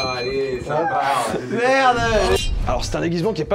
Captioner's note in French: en riant